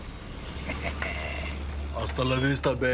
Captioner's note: Nash chuckles